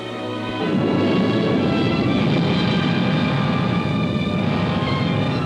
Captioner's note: rocket rumbling